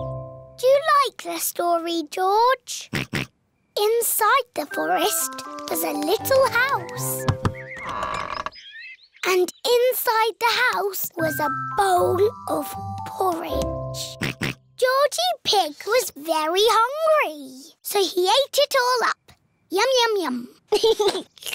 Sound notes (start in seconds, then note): 2.7 oinks; 7.2 door creaks; 14.2 oinks; 20.7 giggles; 21.3 slurps